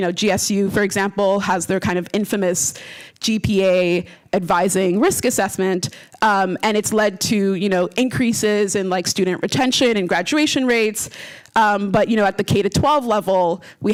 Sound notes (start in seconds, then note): none